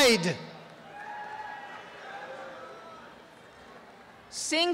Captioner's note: applause and cheering